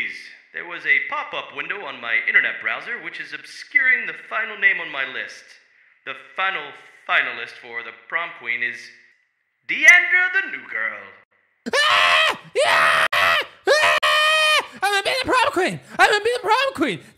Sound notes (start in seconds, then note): 11.6 excited Rose noises